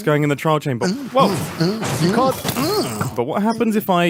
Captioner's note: additional grunting